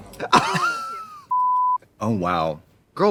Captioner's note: both laugh; beep